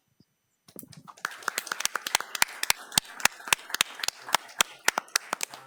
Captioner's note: attendees applauding